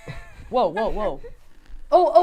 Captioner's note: laughs